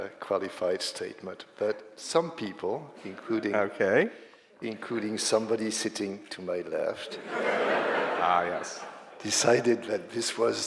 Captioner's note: laughter